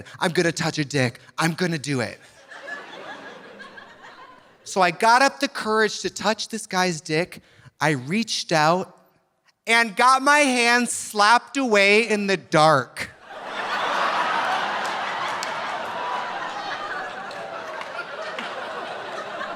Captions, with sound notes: "I'm gonna touch a dick, I'm gonna do it." (audience laughing) So I got up the courage to touch this guy's dick. I reached out and got my hand slapped away in the dark. (audience laughing) (audience applauding)